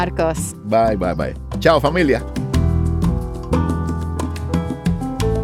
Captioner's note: speaking Spanish